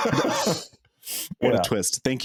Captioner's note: both laughing